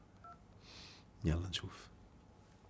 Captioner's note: beep sound!